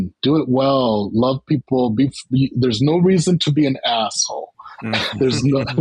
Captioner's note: laughter